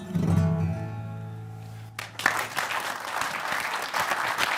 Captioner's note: applause